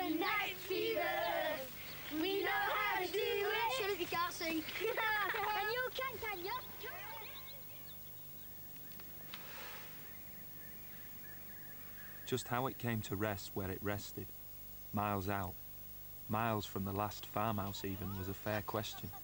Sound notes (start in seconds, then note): 9.3 breathing; 9.9 birds tweeting in background